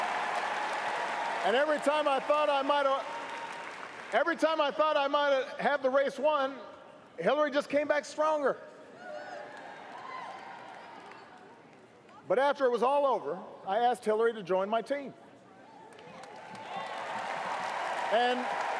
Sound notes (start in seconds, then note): 4.4 cheering